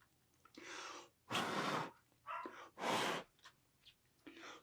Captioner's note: blowing